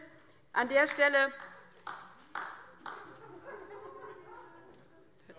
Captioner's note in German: Beifall DIE LINKE